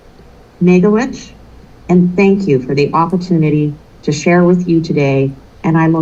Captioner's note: non-english